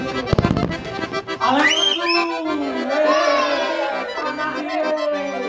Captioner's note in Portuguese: Som de comemoração